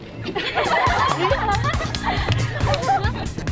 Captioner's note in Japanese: パチパチ